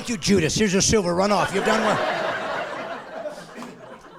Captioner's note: laughing